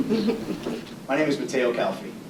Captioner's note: women laughing